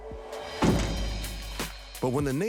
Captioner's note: door slamming